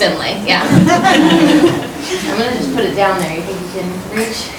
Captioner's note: laughing